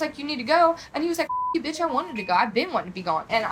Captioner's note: beep